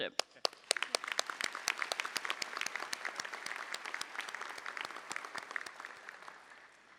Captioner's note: applause